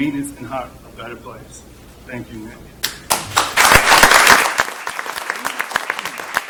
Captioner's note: applause